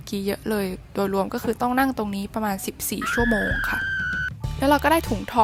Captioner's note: screams